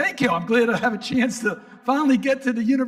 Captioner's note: audience laughing